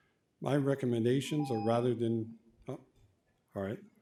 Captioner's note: timer tone